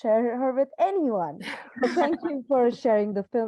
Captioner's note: laughter